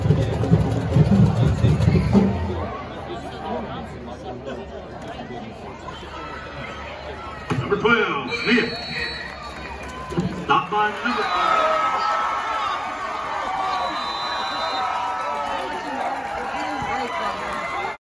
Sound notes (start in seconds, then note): 8.2 whistle blows; 14.0 applause from East Gaston side, Warriors score